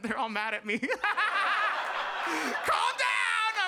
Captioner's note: audience laughs